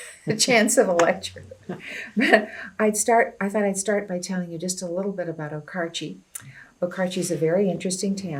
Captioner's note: laughter